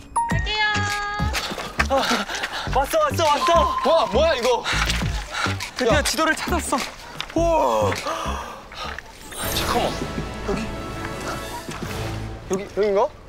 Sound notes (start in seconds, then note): 1.4 huff huff; 4.6 heavy breathing and unstable acting